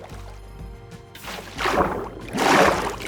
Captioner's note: water splashing